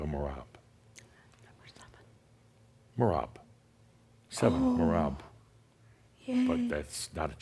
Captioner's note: whispers